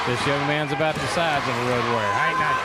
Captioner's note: crowd cheering